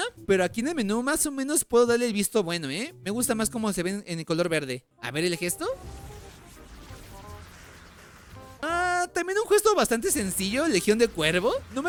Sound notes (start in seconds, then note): 5.7 supernatural portal sound